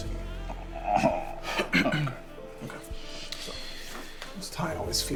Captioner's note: Malcolm clears throat